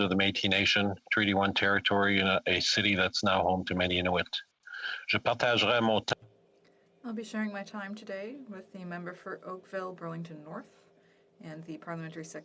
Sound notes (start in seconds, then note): 9.9 speaking French